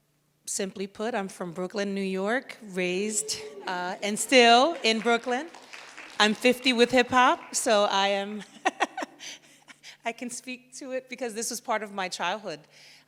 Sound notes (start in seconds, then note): 3.0 audience applauds; 8.3 laughs